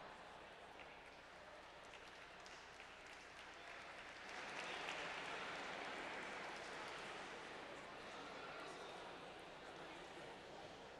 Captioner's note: applause